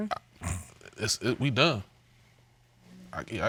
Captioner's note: scoffs